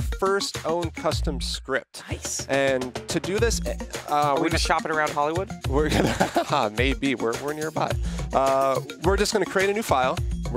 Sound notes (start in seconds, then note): 5.8 laughs